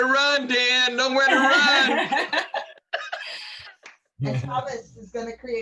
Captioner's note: laughter